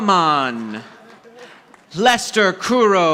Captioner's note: audience applauding